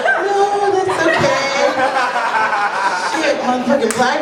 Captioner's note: laughter